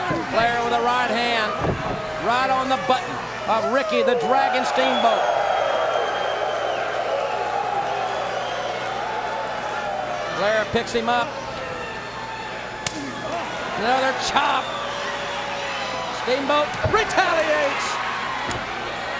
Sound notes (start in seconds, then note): 5.6 crowd cheering